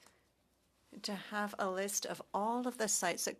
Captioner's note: speaking French